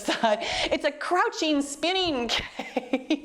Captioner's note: laughs